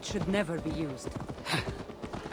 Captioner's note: laugh